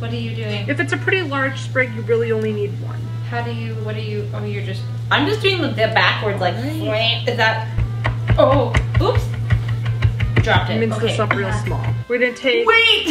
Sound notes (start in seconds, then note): 9.4 chopping